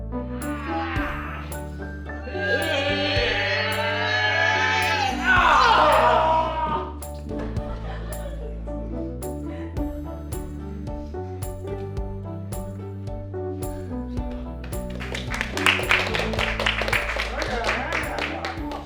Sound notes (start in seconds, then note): 7.4 laughter; 14.8 applause